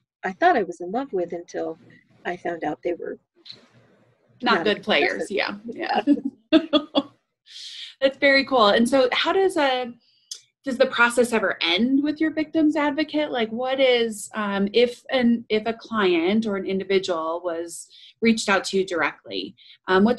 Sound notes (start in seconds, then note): 5.8 laughs